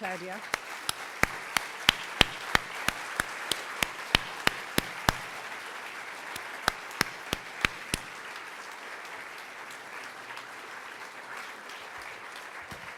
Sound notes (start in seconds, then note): 0.9 crowd Clapping